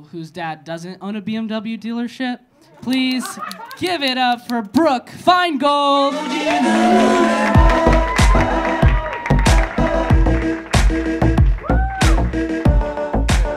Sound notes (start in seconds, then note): 6.0 audience cheering; 6.3 audience clapping